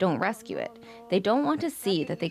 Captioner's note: speaking alternate language